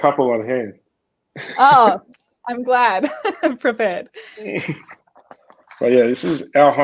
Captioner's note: laughing